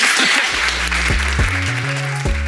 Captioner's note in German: Applaus, dynamische Musik